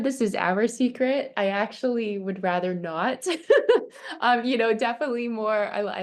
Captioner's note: chuckles